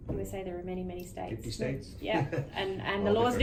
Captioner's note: chuckles